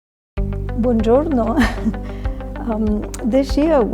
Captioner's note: laughing